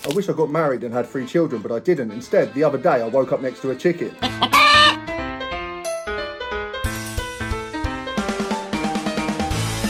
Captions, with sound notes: I wish I got married and had three children, but I didn't. Instead, the other day, I woke up next to a chicken. (chicken clucking) (upbeat traditional Italian music)